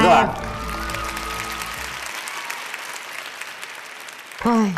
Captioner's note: applause